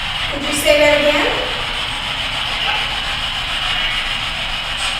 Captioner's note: static buzzing